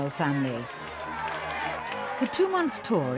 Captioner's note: crowd cheering